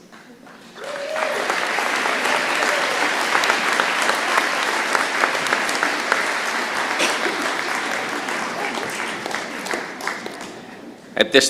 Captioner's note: applause